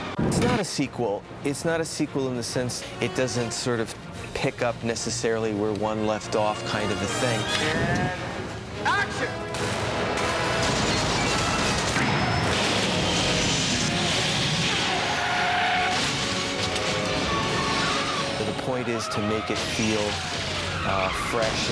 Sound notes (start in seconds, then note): 14.7 tires squeal